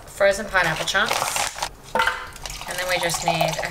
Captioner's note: bag crumples; liquid trickles